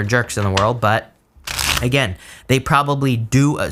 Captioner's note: cards shuffling